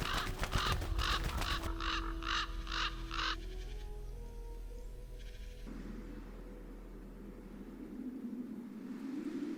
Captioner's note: trzepot skrzydeł, karkanie kruków, szum wiatru